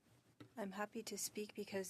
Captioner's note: speaking French